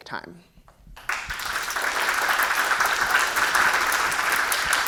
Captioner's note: audience clapping